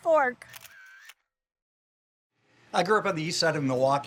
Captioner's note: camera clicks